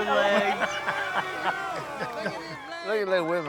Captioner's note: Willie laughs